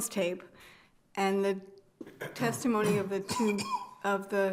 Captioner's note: attendee coughing